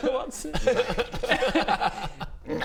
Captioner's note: chaos laughter